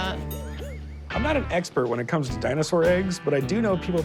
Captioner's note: none